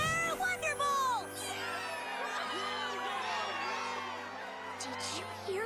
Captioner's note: cheering